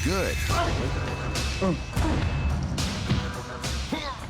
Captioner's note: person grunting